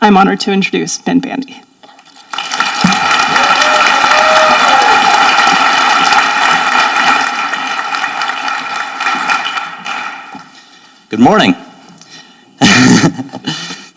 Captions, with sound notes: I'm honored to introduce Ben Bandy. (audience applauding) - Good morning.